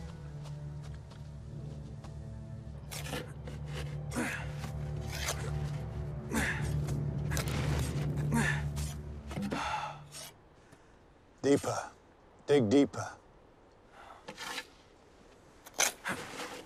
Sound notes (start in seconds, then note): 0.3 dramatic suspenseful music; 6.2 Homer grunting